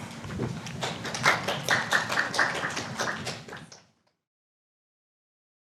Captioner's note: audience applauds